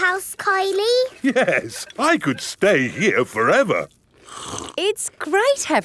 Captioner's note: slurps